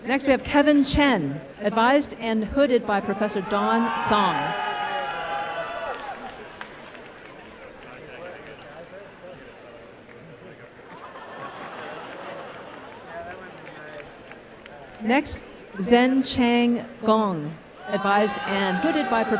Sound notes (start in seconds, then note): 4.1 applause and cheering